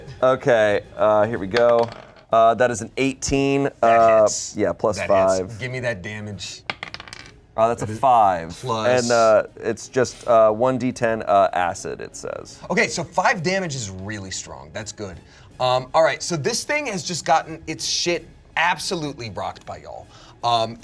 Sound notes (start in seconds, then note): 1.5 dice rolling